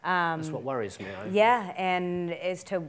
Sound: murmurs

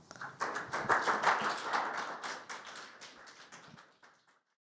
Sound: audience applauding

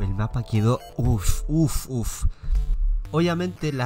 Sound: breathing sounds

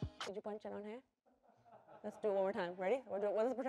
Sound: laughter

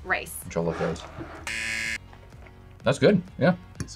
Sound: buzzer

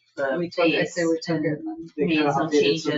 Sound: people chattering

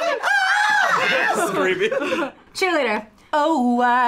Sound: laughs

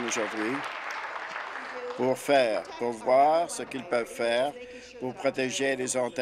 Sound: applause

